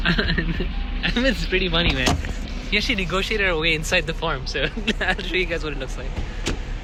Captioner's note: giggle